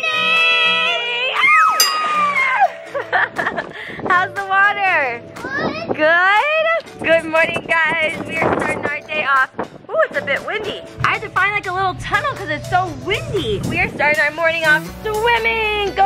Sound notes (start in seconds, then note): 2.0 cheering and laughing